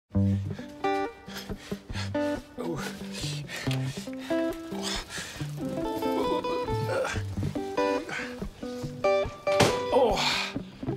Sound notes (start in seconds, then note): 0.0 soothing guitar music; 1.3 heavy panting; 2.0 grunting